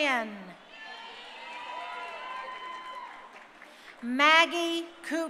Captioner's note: crowd cheering